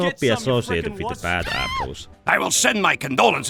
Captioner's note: scream